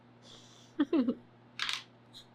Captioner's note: laughs